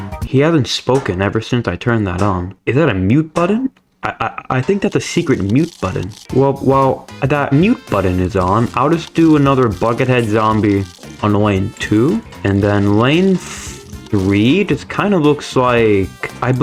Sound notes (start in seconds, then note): 4.0 stutter Moment